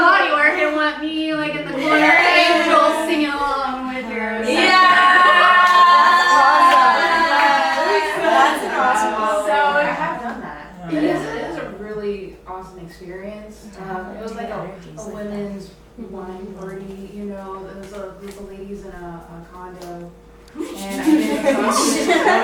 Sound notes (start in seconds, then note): 0.0 big cheers; 4.4 more cheers